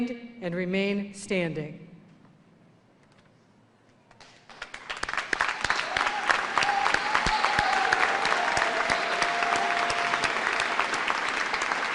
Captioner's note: cheers and applause